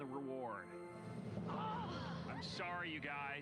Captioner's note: kids sigh